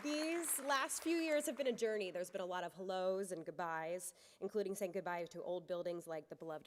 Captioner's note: applause